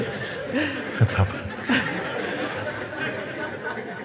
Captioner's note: Lachen